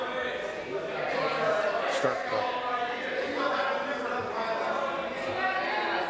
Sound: conversation din

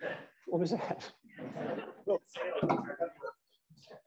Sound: laughter

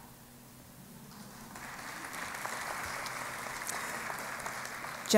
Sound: applause

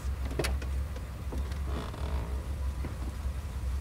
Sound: car door opening

